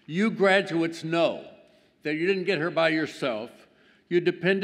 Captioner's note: none